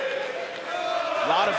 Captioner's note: audience chanting